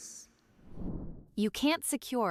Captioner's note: graphic whooshing